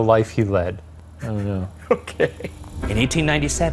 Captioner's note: laughs